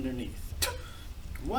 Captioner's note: spits